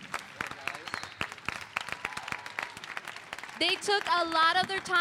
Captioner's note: applause